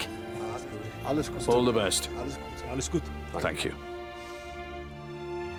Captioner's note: in Greenlandic